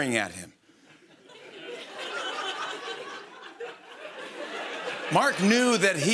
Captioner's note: laughter